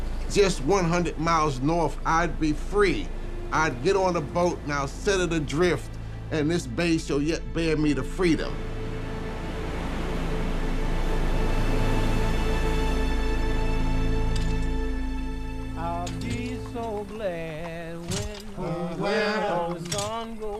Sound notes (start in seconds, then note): 8.5 somber music; 14.4 tools clacking